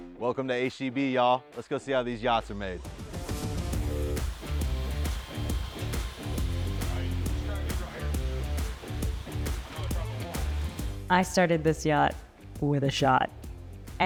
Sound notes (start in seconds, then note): 0.0 upbeat rock music; 3.8 upbeat rock music; 5.9 drill buzzing softly